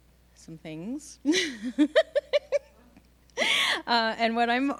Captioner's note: laughing